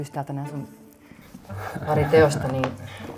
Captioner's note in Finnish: nauraa